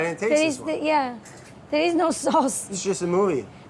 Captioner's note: laughs